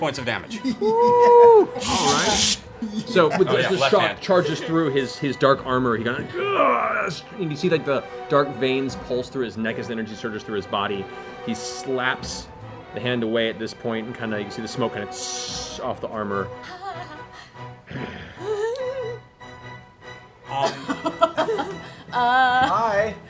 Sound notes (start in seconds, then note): 5.1 groans; 17.5 hissing; 17.9 growls